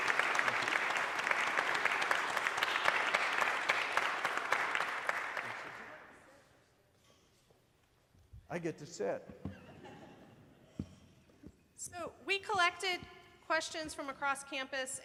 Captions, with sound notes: (faintly speaking) I get to sit. (audience laughing) - So we collected questions from across campus